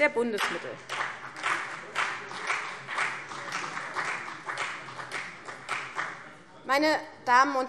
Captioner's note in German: Beifall CDU